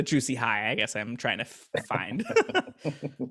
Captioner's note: both laughing